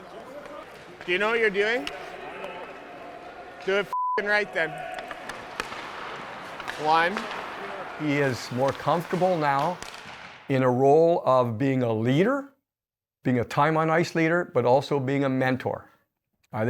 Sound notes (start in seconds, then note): 3.9 beep